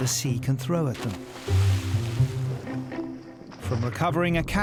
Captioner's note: water splashes